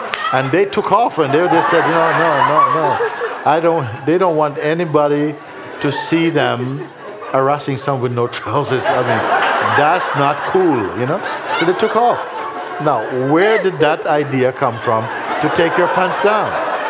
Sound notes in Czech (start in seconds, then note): 1.2 smích; 12.3 smích; 16.6 smích